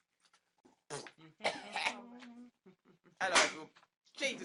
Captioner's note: coughs